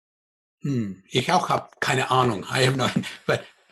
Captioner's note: speaking in foreign language